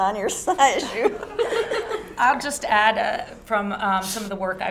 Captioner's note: laugh